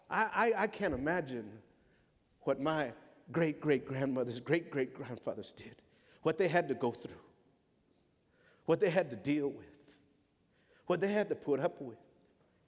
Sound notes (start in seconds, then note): none